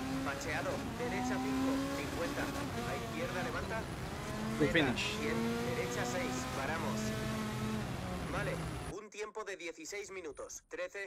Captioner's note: car engine